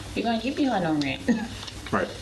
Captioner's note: laughs